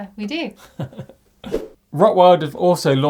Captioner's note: laughing